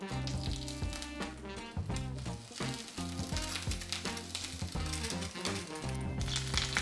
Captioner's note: sizzling sound